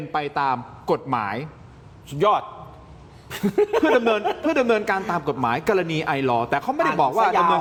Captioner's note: laughter